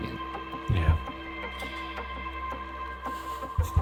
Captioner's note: laughing